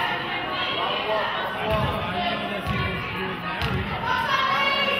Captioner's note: audience chattering